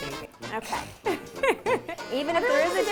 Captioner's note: laughs loudly